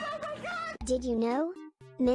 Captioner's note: robot voice